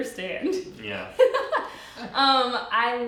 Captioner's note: giggling